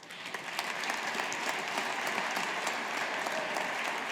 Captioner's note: audience applauding